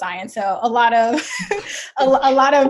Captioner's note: chuckles